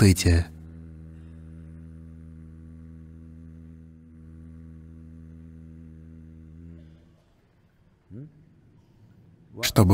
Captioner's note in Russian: Садхгуру произносит звук М-М-М-М-М-М